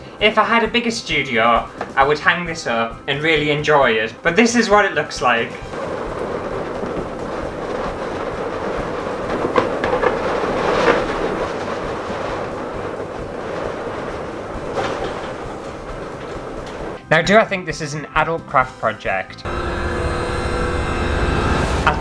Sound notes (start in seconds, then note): 5.7 balloon Sounds; 9.1 balloon Sounds Intensify; 11.5 balloon Sounds; 19.4 suspenseful Music